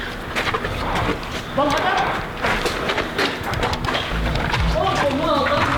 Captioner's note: Arabic spoken audio